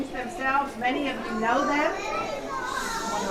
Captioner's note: children babbling